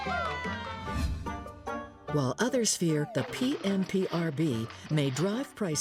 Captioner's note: audience cheering